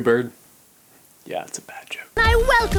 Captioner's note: whispering shamefully